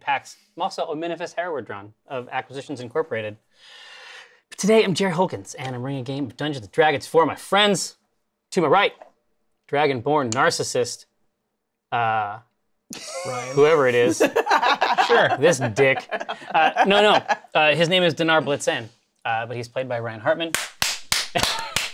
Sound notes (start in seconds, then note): 3.5 takes deep breath; 12.9 laughs; 20.5 claps loudly